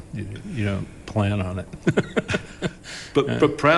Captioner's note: laughs